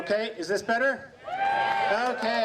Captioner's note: crowd cheers